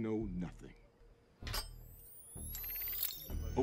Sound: metal Sound

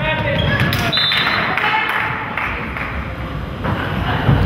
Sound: whistle blows

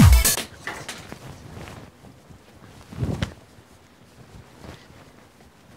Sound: shuffling sounds

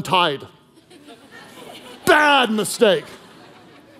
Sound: congregation laughing

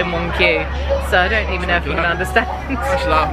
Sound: laughs

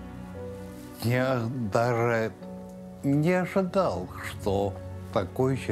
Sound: speaking Russian

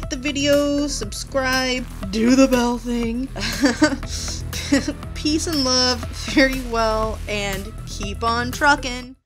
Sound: laughs

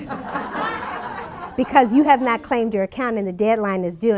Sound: laughter

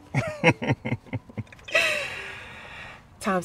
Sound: both chuckle

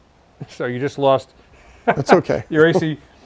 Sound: laughing

